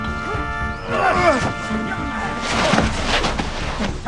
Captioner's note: soldiers grunting